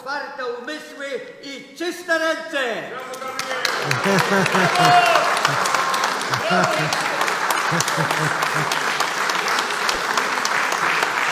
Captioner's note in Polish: Aplauz